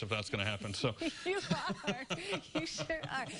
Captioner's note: laughter